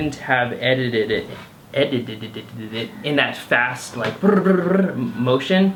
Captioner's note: tongue trills